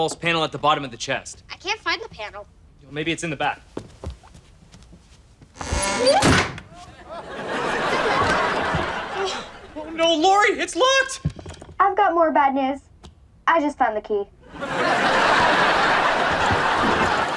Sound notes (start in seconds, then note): 5.5 hinge squeaks; 6.7 audience laughter; 14.4 audience laughter